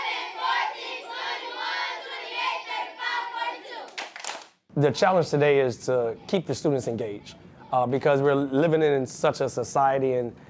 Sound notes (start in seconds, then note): 3.8 students clapping